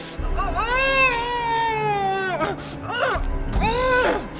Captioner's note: heavy grunting